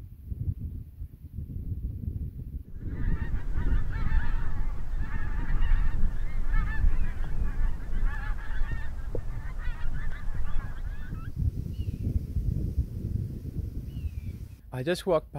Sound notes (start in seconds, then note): 2.7 overflying ducks sound